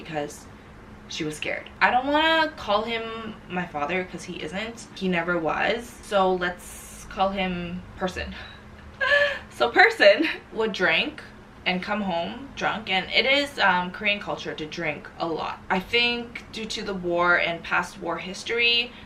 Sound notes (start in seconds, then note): 8.9 laughs